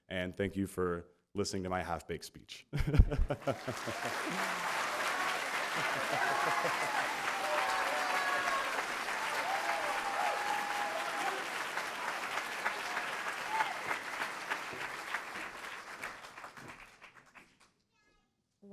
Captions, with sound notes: and listening to my speech. [ laughter ] [ Applause ]